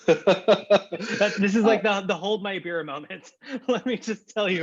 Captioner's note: laughter